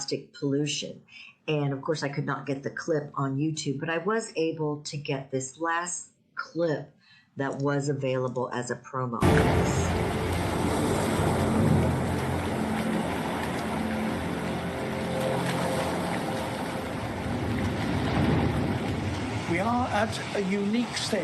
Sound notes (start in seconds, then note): 9.2 video clip starts with ocean sounds